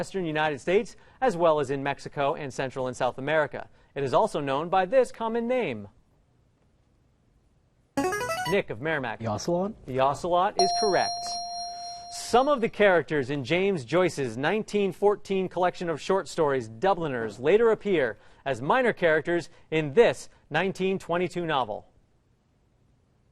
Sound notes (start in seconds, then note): 8.0 ringer; 10.6 ding